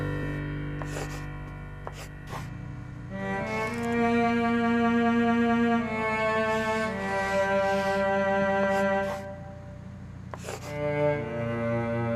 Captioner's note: pen scritching